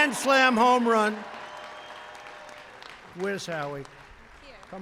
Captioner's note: applause